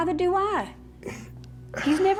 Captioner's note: scoffs